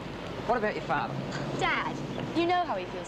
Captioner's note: scoffs